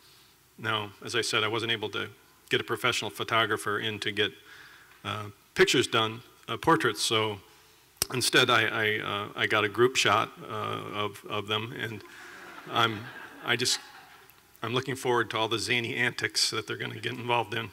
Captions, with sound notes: Now, as I said, I wasn't able to get a professional photographer in to get pictures done, portraits, so instead, I got a group shot of them [laughter]. And I'm looking forward to all the zany antics that they're gonna get involved in,